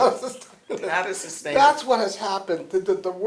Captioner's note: laughter